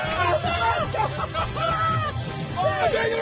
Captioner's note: cheering & applauding; laughing